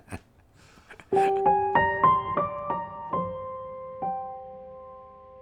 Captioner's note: laugh